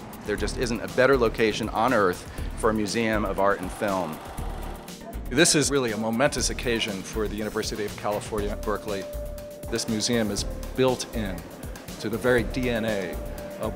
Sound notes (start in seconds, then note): 5.4 voiceover